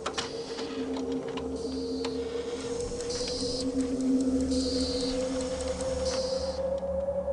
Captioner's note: mechanical whirring and clicking